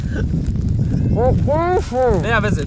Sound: mumbling

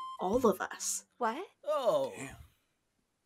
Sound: collective disappointment

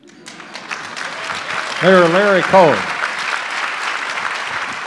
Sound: audience applause

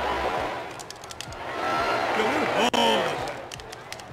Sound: controller keys clicking

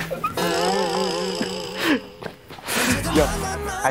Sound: crying

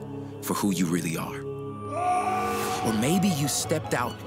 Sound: screams

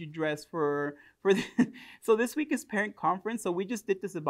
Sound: chuckles

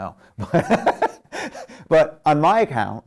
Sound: laughing

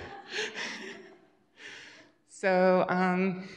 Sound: laughter

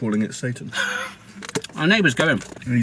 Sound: laughs

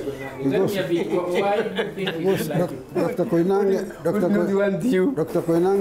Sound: laughter

